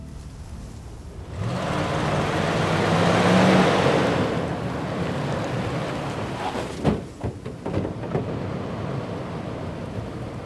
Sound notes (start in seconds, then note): 0.4 intense wind; 1.0 car accelerating